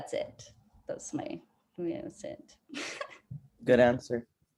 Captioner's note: laughing